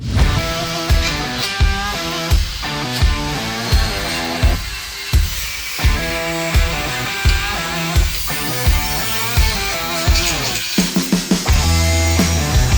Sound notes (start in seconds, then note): 0.1 hard Rock Music; 4.0 grinder Buzzing